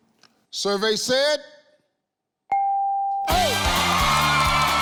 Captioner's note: ding; audience clapping; people yelling; upbeat music